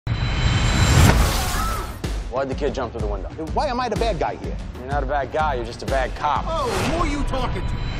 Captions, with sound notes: [glass shattering] [screaming] Why'd the kid jump through the window? Why am I the bad guy here? You're not a bad guy. You're just a bad cop. Oh, who are you talking to?